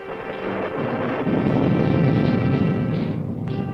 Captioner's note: thunder rumbling